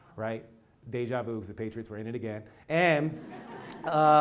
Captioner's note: laugh